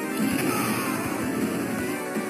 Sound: dragon roar

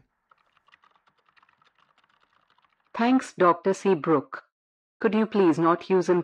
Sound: SFX: Keyboard typing; robotic text-to-speech voice

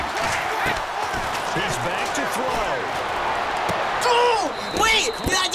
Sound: exclaims in frustration

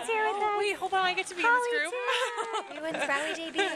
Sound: laughter

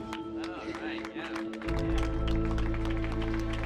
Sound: crowd claps

